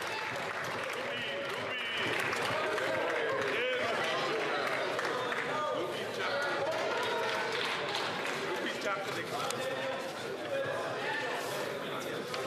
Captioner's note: applause